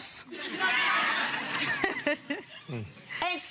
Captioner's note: audience laughing